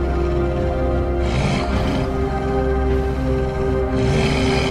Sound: wolf growls

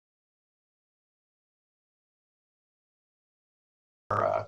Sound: silence

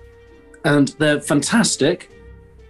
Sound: none

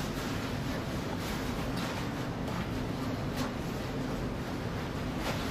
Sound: fabric rustling

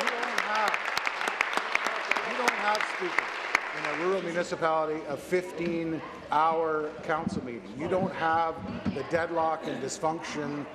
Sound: applause

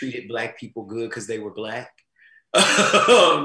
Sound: laughs

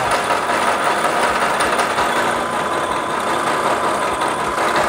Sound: machine whirring continues

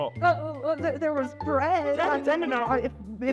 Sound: stutters

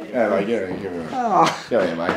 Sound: audible kiss

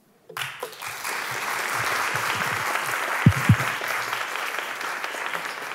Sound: applause

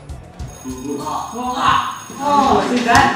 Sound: school Bell

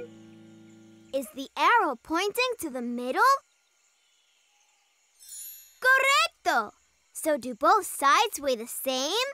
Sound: none

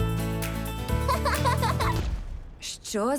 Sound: laughing; loud thud

